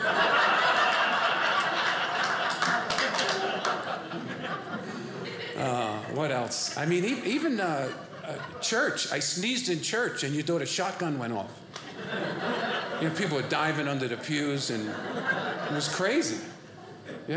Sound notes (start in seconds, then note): 0.2 audience laughing; 2.3 audience cheering